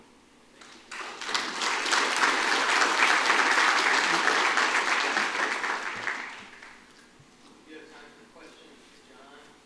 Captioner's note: applause